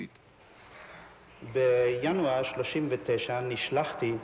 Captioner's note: man, in Hebrew